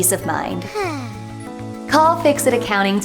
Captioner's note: sighs in relief